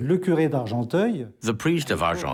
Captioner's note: speaking in foreign language